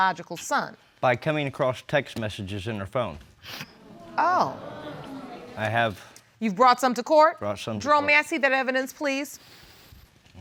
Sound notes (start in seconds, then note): 3.7 audience groans